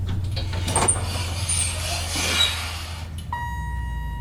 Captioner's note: elevator arrives, dings, door opens